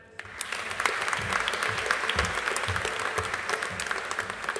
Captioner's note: audience applauding